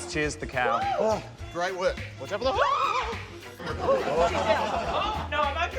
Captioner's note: screams